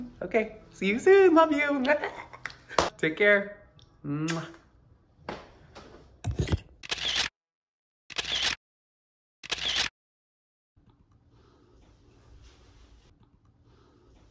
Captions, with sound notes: Okay, see you soon. Love you. Uh, ah, ah. Take care. (lips smooching) (camera shutters)